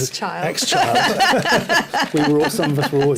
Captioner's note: laughs